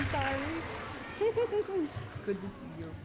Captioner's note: giggling